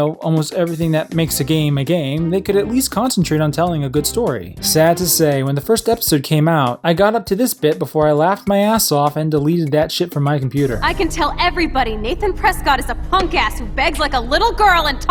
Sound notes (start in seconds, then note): none